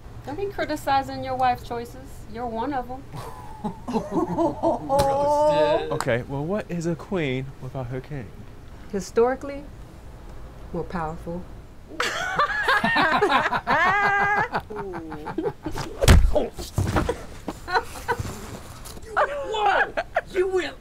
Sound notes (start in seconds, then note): 3.1 chuckling; 11.9 laughing; 15.7 smacking; 16.8 laughing